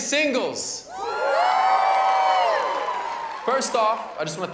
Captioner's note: cheers and applause